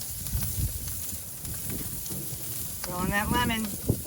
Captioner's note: grill sizzling